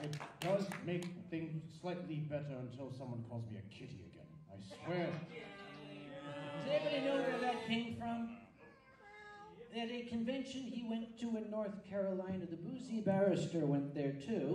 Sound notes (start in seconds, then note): 4.7 a few audience members yell "kitty!" and meowing noises; 8.6 more audience meows